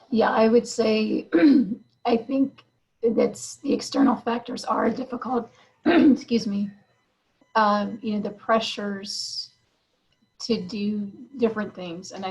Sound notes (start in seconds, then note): 5.8 clears throat